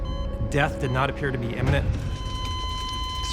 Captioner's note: beeping